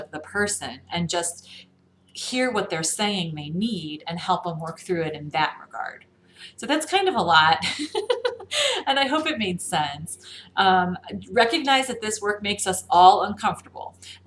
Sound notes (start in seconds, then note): 7.6 laughs uncomfortably